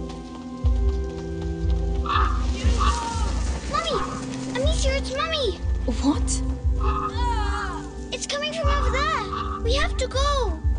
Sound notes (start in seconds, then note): 6.8 groans